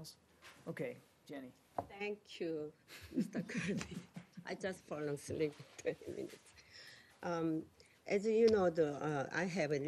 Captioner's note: laughter